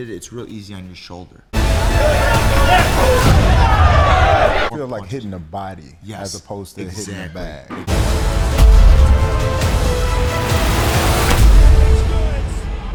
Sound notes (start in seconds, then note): 1.5 dramatic thudding; 1.5 intense dramatic music; 7.8 dramatic thudding; 7.8 intense dramatic music